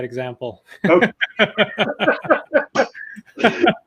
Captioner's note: laughs